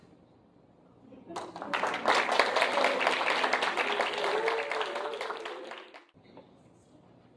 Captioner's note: applause